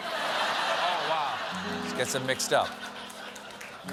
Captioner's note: laughter